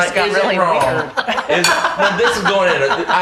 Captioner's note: laughing